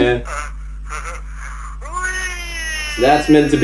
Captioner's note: silly voice chuckling and going "Weeee!"